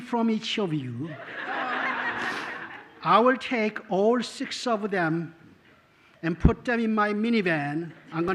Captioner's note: laughter